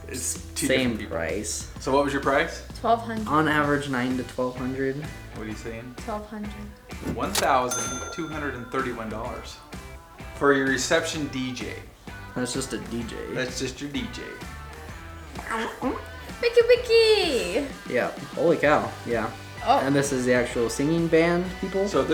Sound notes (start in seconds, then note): 1.9 male Voice; 5.5 male Voice; 7.4 male Voice; 13.5 male Voice; 22.0 male Voice